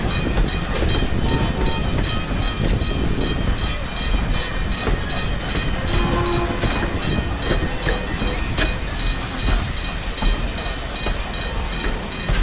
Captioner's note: clickety-clack